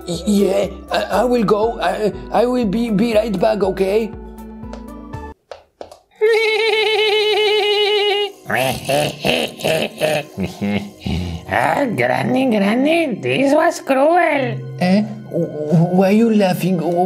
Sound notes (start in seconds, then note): 6.2 creature laughing; 8.6 Granny laughing evilly; 10.6 Evil Nun chuckling